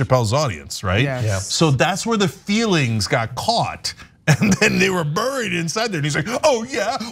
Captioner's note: laugh